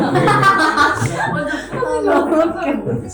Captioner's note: heh heh